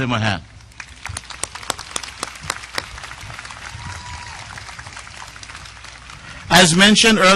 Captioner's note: audience applause